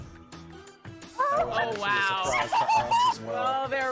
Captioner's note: lively upbeat music; murmuring